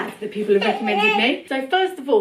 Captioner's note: baby babbles